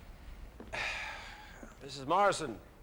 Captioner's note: exhales